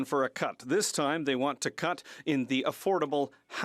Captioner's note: speaking French